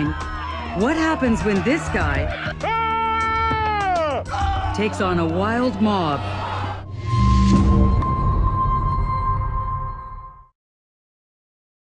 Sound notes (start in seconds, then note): 3.7 battle cry